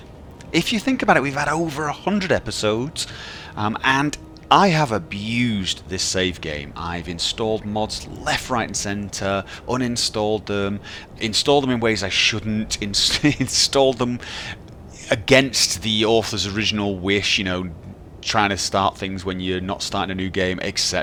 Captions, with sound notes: If you think about it, we've over a hundred episodes And I have abused this save game I've installed mods left right and centre Uninstalled them Installed them in ways I shouldn't *chuckles* Installed them against the original author's wish you know... Trying to start things when you're not starting a new game etc.